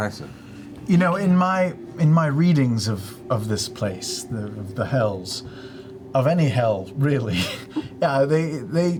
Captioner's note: laughs